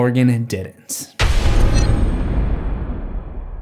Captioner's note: impact